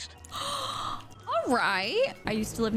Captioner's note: gasping